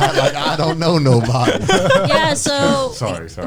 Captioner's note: all laughing